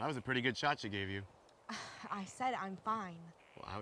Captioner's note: scoffs